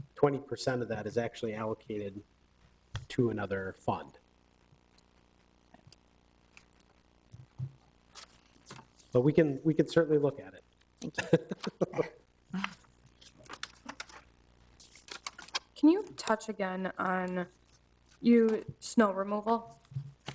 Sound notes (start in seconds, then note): 11.0 chuckles